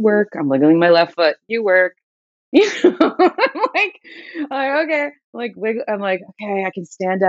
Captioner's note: laughter